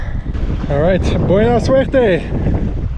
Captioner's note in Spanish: habla en español mixto